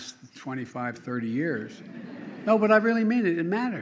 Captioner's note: laughter